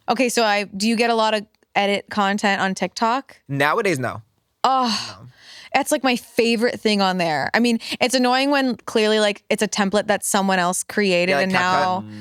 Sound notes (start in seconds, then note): 4.8 sighs